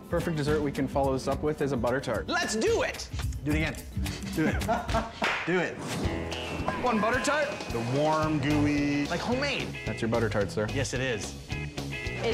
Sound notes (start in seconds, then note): 4.4 laughing; 6.6 whistle blowing